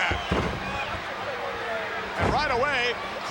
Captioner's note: fist thudding